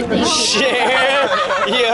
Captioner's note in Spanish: Risas